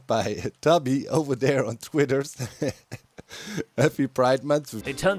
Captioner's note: chuckles